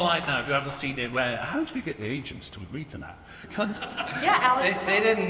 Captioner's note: laughs